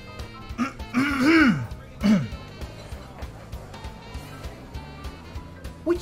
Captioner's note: Sherman clearing his throat